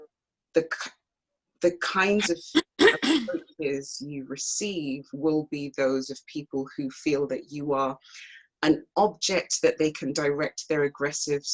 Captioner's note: clears throat